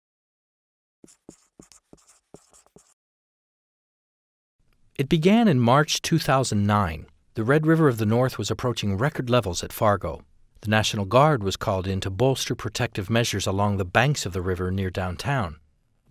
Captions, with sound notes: [Sound Effect: marker writing on whiteboard] It began in March, 2009. The Red River of the North was approaching record levels at Fargo. The National Guard was called in to bolster protective measures along the banks of the river near downtown.